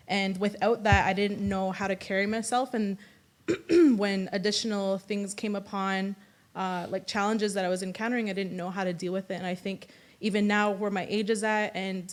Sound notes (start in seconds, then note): 3.5 clears throat